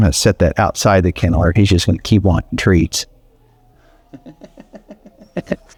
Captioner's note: laughs